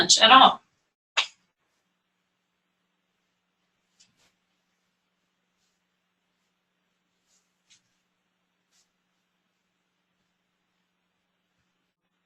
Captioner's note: pause